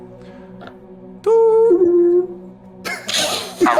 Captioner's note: calling sounds